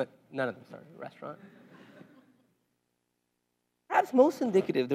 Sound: laugh

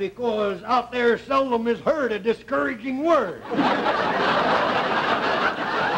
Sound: audience laughter

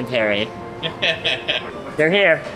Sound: laughing

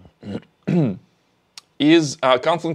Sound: clears throat

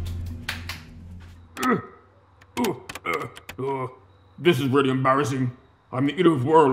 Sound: grunting

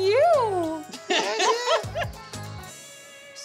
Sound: laughter

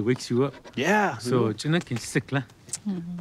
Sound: speaking in Apache

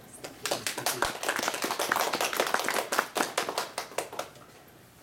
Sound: clapping

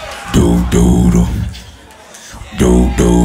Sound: beatbox

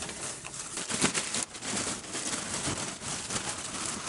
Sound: plastic rustles

